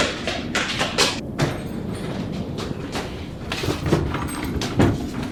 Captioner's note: door violently opens and shuts